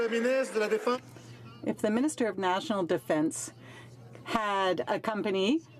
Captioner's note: some Applause